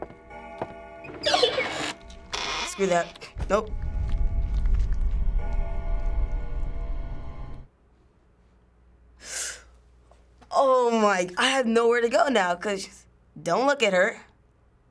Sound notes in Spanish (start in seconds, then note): 1.2 Puerta cruje, se ríe; 3.0 música misteriosa construye; 8.0 silencio; 9.2 Chupa aire a través de los dientes